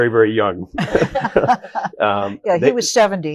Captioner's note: all laughing